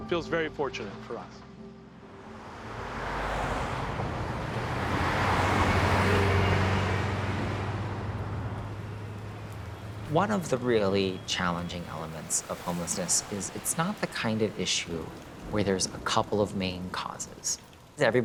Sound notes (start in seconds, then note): 2.5 city traffic bustling; 8.3 rain pattering